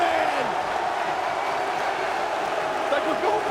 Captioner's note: spectators cheering